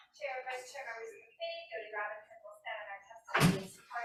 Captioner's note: testifier chatters